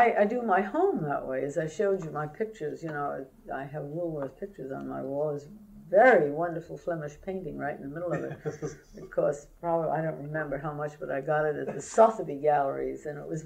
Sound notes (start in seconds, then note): 8.0 laughter